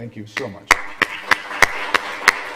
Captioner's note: applause